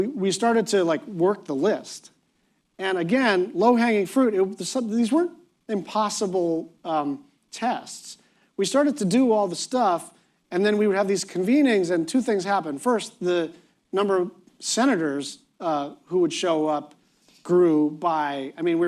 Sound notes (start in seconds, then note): none